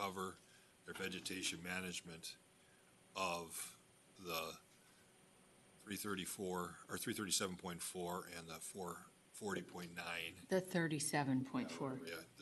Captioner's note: clears throat